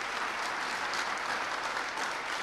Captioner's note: applause